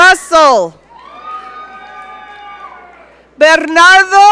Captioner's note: audience cheering